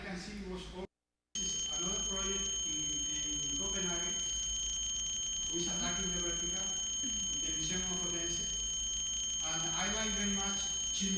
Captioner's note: loud tone